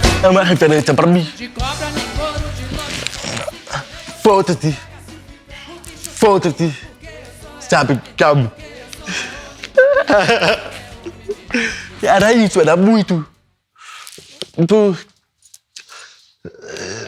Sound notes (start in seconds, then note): 9.7 boy laughs